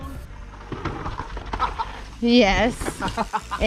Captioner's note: laughs happily